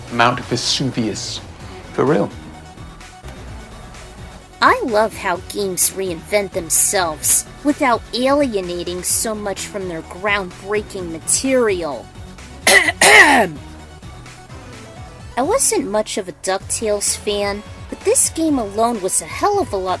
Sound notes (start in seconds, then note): 12.6 ahem!